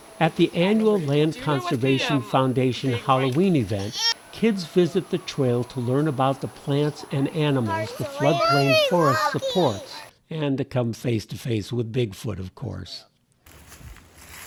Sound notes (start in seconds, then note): 8.7 excited child talks